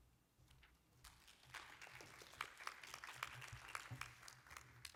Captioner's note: applause